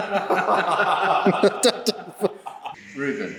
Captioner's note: laughter